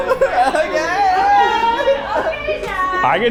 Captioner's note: laughing